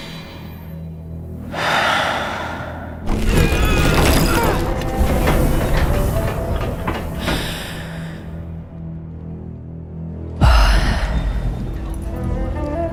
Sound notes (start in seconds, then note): 3.1 machinery groans to life; 10.2 loud exhale